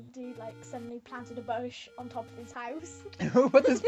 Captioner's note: laughter